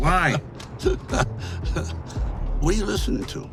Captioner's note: Dwight laughing